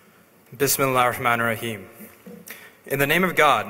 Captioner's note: speaks arabic